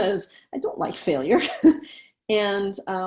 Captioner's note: laughs